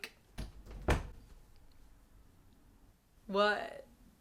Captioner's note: door closing